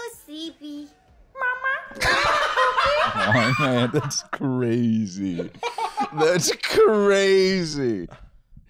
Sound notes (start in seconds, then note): 2.0 laughing